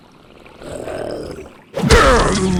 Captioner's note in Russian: Рычит